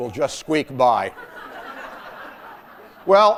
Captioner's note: laughter